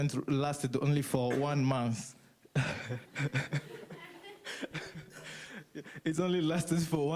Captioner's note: laughs